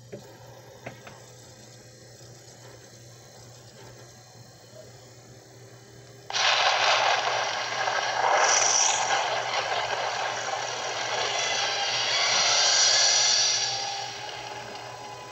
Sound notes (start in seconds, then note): 6.3 thunderclap; 8.4 flames Bursting